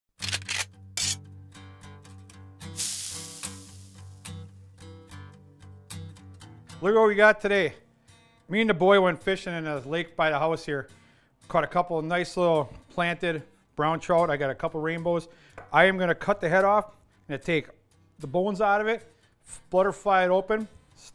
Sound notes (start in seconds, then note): 0.2 gun cocking; 2.7 sizzling